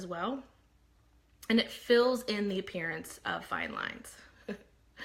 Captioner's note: laughs